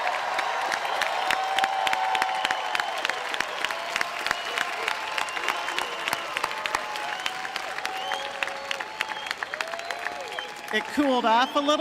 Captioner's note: cheering and applause